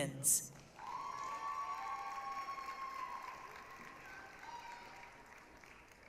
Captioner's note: applause, cheering